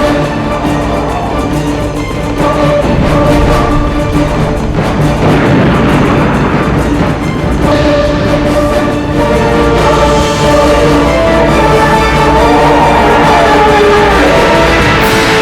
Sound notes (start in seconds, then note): 13.5 loud snarling roar